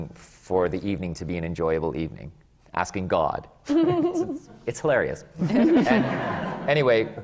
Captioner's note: giggles; laughter